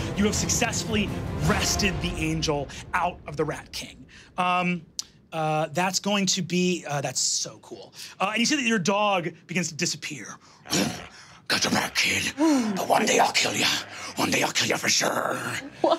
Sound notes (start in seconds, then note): 10.6 growls